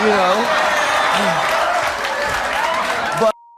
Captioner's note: audience exclaims in disbelief